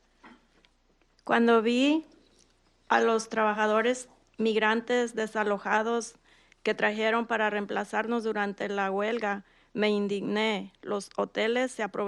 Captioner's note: speaking in Spanish